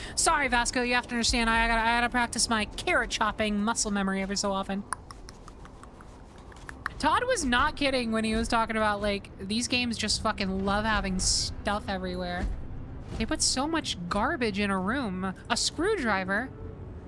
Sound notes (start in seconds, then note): 4.8 clicking Sounds